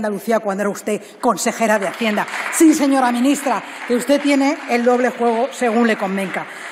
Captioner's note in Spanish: Aplausos